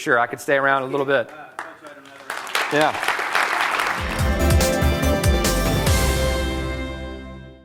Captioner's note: applause